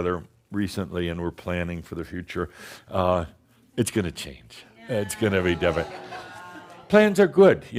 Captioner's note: some chuckles